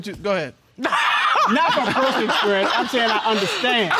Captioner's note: laughing